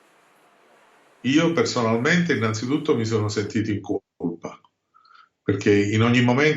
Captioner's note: man speaking a foreign language